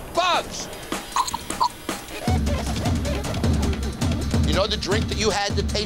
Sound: retching

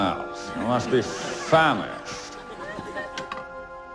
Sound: laugh track

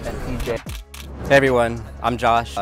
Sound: camera clicking

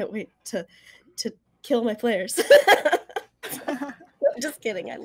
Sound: laughs

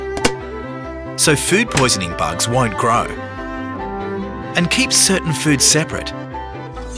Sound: fridge door closes; knife blade sound

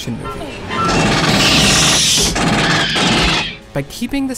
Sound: alien screeching; gun rapidly firing

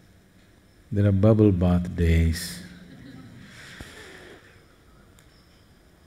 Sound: laughter

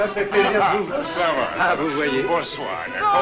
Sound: French

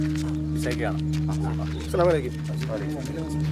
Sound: crowd muttering

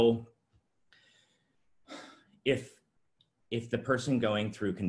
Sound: exhales sharply

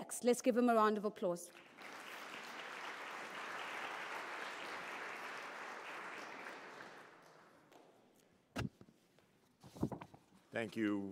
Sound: applause

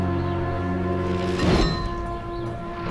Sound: metallic schwing

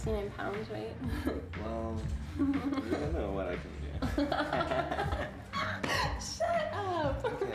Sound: laughing

